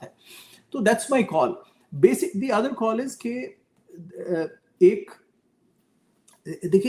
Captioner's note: nasal voice